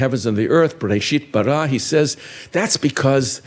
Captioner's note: speaking in foreign language